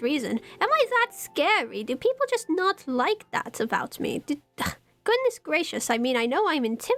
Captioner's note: scoffs